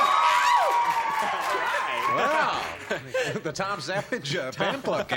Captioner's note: cheers